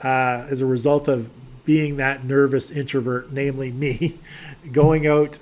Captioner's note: giggles